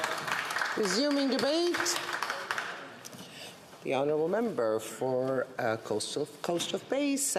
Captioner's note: some Applause